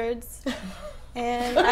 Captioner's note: laughing